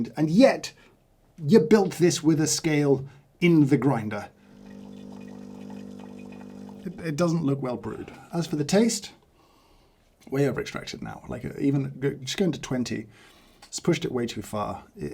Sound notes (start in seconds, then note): 4.4 machine brews